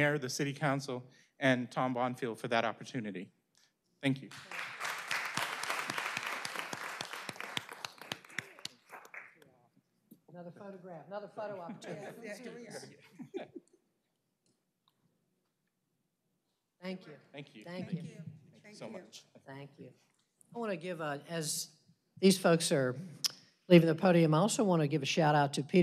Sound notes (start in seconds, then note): 9.8 applause; 16.2 laughter